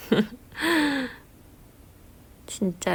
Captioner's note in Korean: 웃음